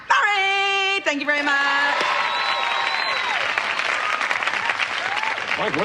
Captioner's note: Aplausos, vivas